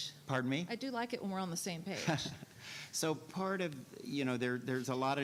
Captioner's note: laughing